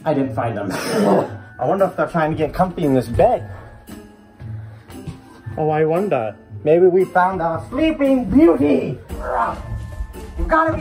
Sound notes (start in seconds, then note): 1.1 The Grinch laughs